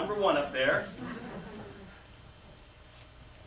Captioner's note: laughter